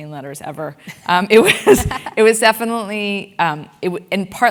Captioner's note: laugh